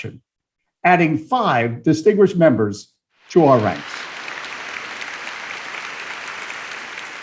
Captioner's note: applause